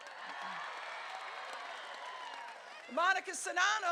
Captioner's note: crowd cheering